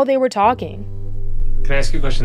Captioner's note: soundbite of archived recording